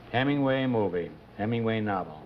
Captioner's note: none